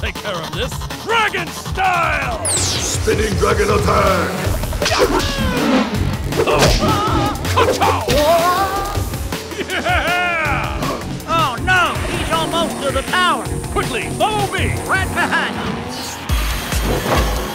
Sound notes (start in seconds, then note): 4.2 grunts; 7.8 screaming; 9.8 laughs